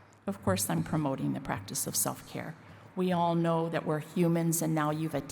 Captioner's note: none